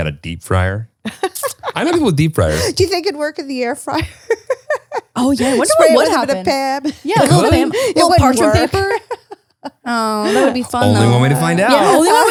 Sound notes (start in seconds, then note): 4.8 laughs